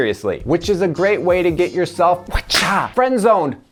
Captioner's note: whip cracks